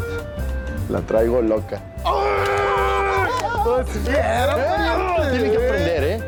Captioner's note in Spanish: Ríe